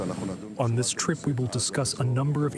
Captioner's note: through translator